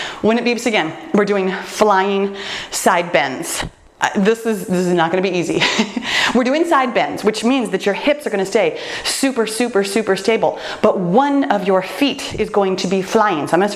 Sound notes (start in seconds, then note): 5.8 laughs